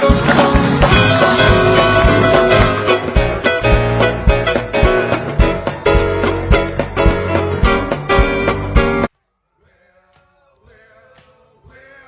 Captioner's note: cheering and applause